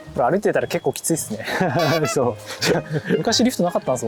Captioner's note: haha